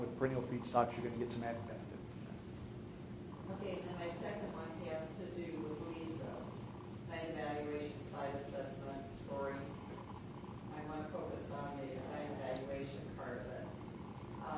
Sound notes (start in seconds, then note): 4.8 speaking off microphone